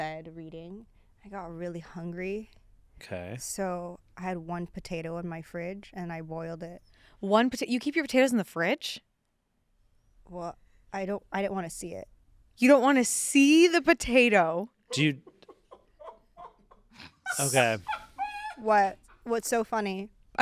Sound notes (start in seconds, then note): 15.6 crew laughing